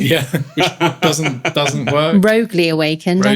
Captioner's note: laughing